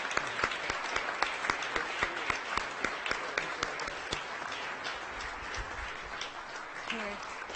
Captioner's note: audience applauding